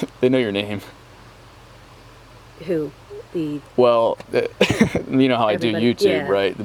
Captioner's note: nervous laughter